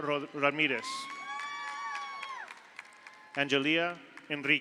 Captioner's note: audience cheers; audience applauds